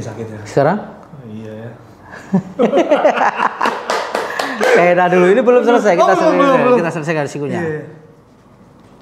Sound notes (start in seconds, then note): 2.5 laughs